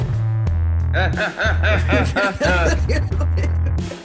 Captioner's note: laughter